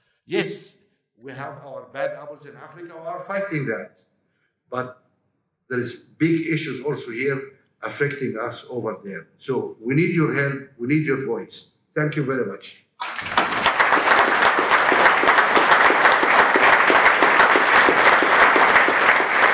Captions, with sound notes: Yes, we have our bad apples in Africa. We are fighting that but there is big issues also here affecting us over there. So we need your help. We need your voice. Thank you very much [Applause]